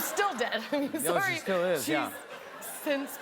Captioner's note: laughter